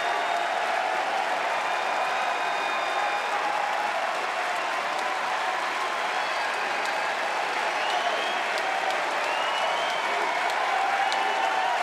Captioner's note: crowd cheering; crowd chatter